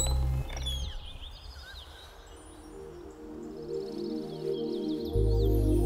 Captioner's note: Door opening; Birds chirping